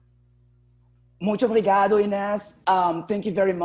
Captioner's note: speaking portuguese